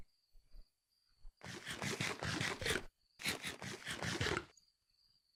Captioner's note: chomp chomp chomp chomp